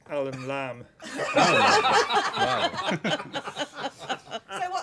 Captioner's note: laughter